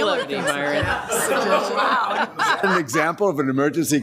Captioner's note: members laughs